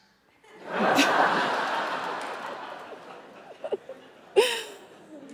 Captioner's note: audience laughing